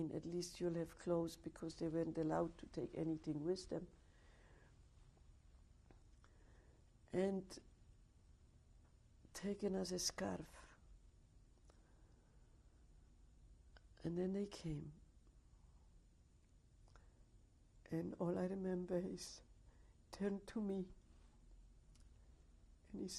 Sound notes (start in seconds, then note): 5.1 pauses for 3 seconds